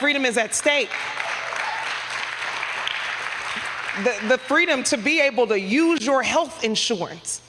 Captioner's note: applause